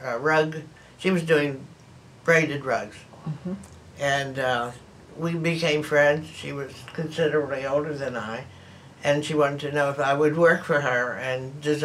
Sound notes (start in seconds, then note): none